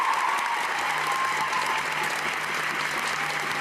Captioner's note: cheers and applause